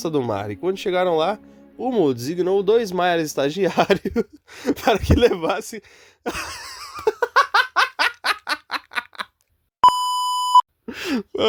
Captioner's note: laughter I thought my script was funny